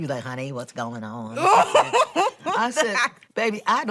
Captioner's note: laughing